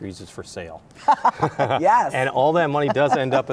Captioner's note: laughs